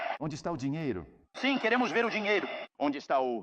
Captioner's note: townsfolk clamoring